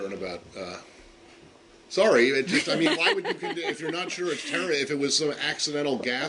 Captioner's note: laughter